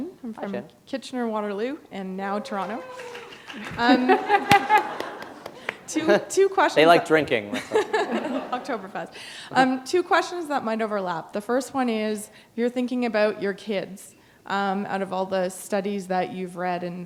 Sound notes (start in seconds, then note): 4.1 applause; 5.1 laughter; 8.6 chuckle